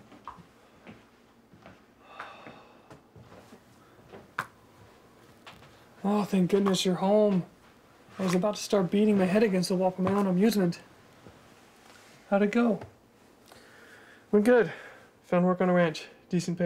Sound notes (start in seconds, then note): 2.0 Thomas sighs